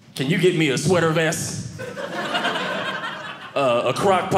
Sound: audience laughing

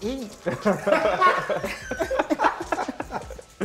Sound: laughter

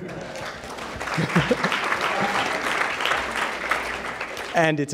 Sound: applause

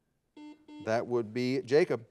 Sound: buzzer beeping

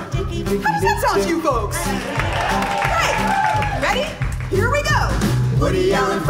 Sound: applause

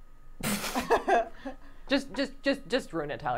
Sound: laughing

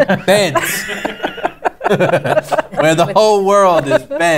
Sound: laughter

